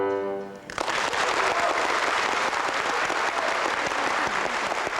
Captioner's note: applause